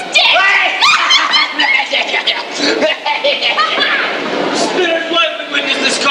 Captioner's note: cackling laughter